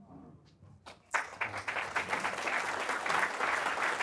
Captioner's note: audience clapping